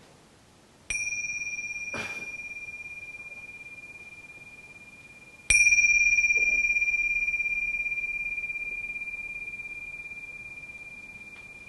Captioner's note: bell ringing